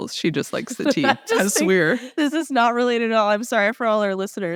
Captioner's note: laughs